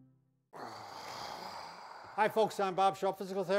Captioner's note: groans